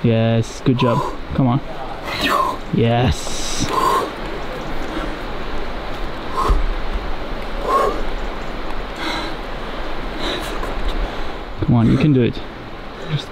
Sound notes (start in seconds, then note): 3.7 exhales